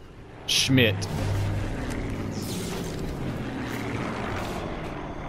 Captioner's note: plane flying overhead